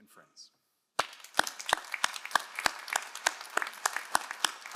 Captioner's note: all applauding